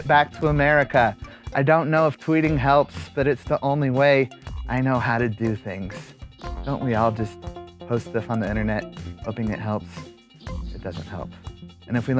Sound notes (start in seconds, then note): none